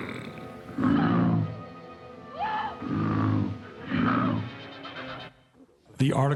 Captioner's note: Kong’s love grunts and Fay Wray screaming